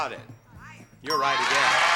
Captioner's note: bell dings